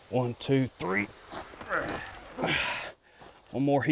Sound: people grunting in exertion

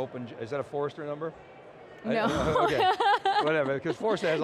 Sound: laughing

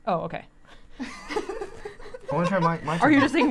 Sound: laughing

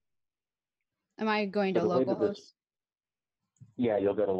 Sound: overlapping chattering

